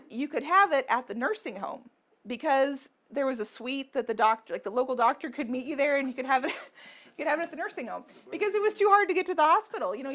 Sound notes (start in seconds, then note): 7.2 laughs